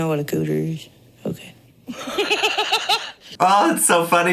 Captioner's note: laughing